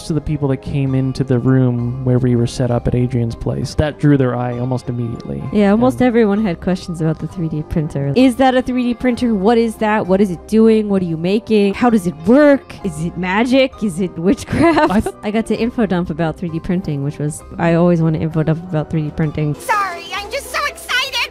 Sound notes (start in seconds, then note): 14.4 laughing